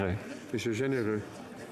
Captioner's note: speaking French